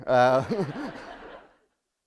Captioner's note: laughter